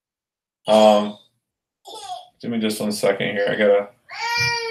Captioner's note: toddler sobs